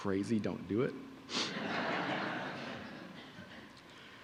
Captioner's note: audience laughing